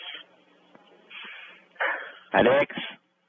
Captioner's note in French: respiration bruyante